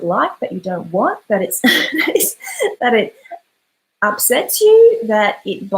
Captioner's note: laughs